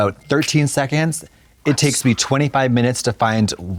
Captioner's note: text message bell